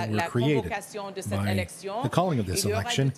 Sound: speaking French

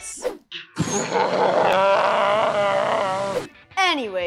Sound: slow motion laughter

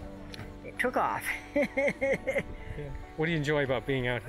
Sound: laughs

